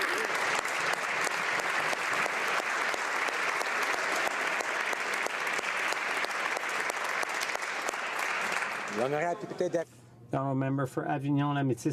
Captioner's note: applause